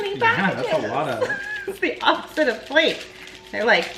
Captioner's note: laughing quietly